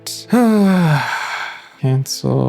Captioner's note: sighs